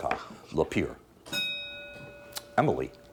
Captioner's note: bell dinging